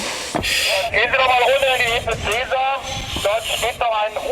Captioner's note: radio